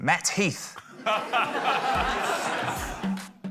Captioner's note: laughter